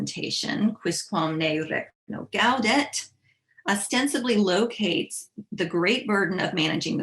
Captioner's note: speaking latin